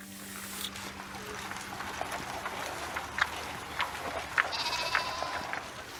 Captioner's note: horses' hooves clopping